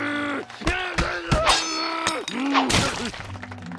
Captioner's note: shouting